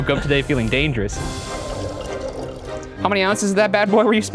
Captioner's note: liquid pours